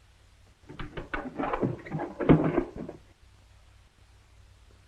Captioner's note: trunk clatters